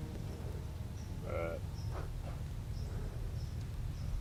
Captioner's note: deer call